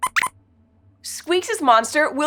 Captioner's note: squeaks squeaks